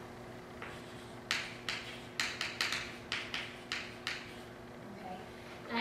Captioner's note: chalk writing on chalkboard